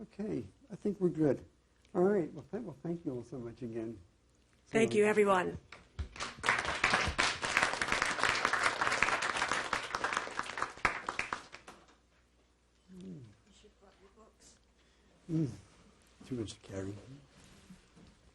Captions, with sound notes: Okay, I think we're good. Well thank you all so much again. (applause)